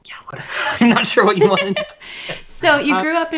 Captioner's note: laughter